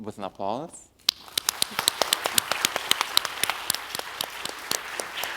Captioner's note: audience applauds